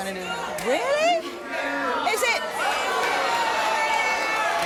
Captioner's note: audience shouting